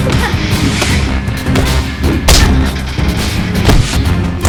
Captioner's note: both grunting